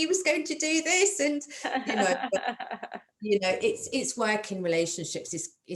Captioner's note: laughter